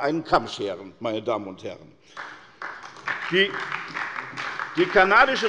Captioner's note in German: Beifall bei der SPD